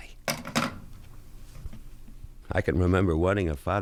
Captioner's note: phone hangs up